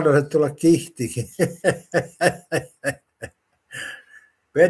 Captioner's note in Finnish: naurua